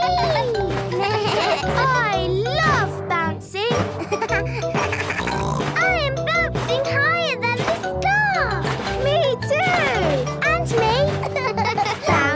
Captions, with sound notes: (giggles) (bleating) - I love bouncing! (giggles, snorts) - I am bouncing higher than the sky! - Me too! - And me!